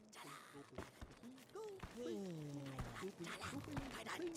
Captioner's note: bugsnax babbling